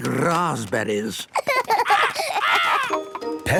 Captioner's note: laughs